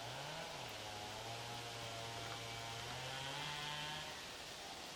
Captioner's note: tree sawing